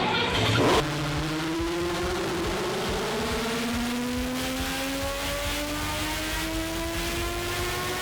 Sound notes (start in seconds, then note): 0.1 engine revving